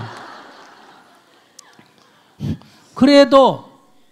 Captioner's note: audience laughs